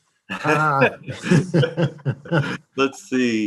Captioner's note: laughing